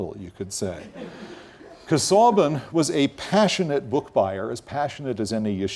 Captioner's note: laugh